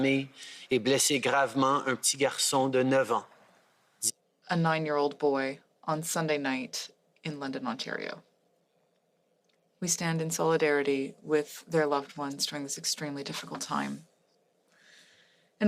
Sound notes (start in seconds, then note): 2.0 speaking French